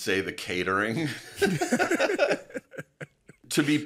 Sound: laughing loudly

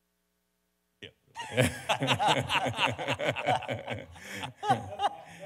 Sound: panelists laugh; audience members laugh

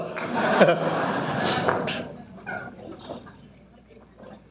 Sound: audience laughing

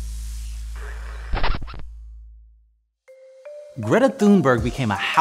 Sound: record scratches

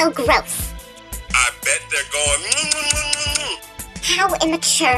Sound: kissing Noises

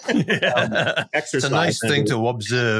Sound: they laugh

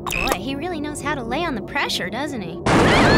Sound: explosion

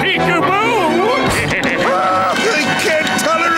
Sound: laughing

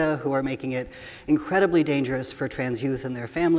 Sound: none

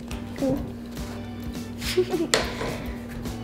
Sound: laughter

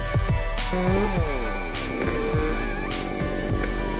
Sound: chainsaw grumbles

